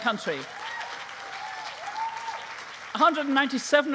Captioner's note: cheering